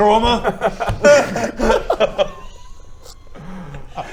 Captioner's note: hysterics